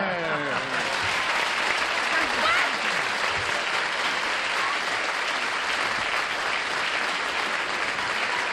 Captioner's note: applause